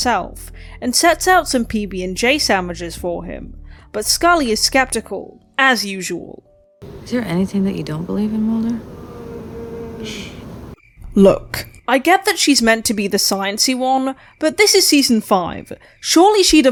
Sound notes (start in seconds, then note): 9.0 Mutato moans in the distance and Mulder shushes Scully